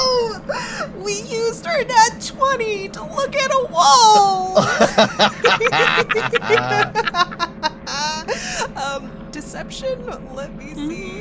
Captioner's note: EVERYONE laughs